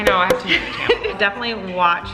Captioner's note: popping